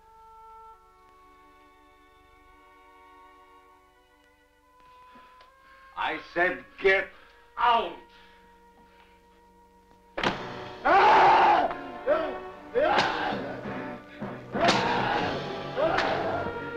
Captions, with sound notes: I said get out. (Lobo screaming) (dramatic music)